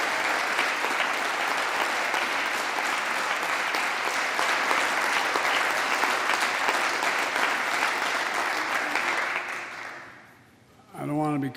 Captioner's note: applause